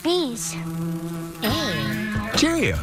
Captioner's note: buzz